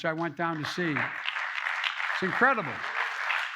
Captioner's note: applause